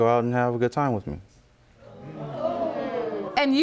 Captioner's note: audience gasps